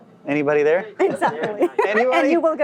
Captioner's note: laughs